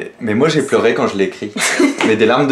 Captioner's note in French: rire